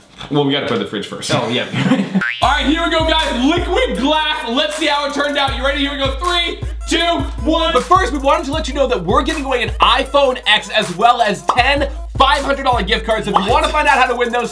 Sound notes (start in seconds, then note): 1.6 laughs